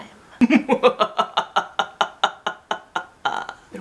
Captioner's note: extremely evil laughter